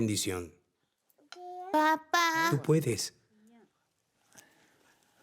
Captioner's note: Arabic spoken audio